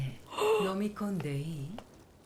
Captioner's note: gasp